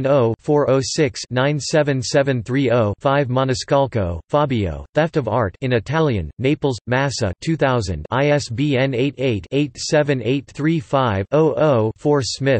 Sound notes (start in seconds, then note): 6.0 in Italian